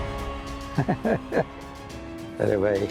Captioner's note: chuckling